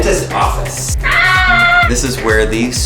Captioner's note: yelling